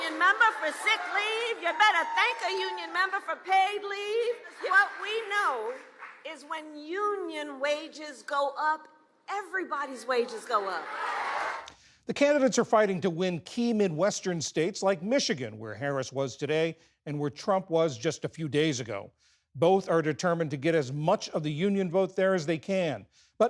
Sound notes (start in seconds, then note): 10.5 applause; 10.6 cheering